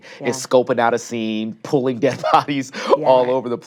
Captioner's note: chuckles